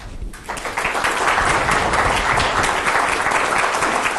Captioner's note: group applauding